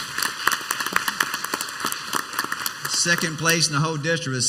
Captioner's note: clapping